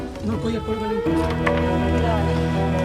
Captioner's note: speaking in a foreign language